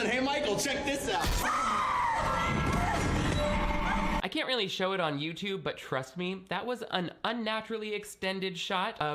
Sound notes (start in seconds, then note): 1.2 Sarah screaming